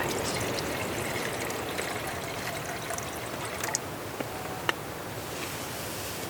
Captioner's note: sound of water pouring into the pot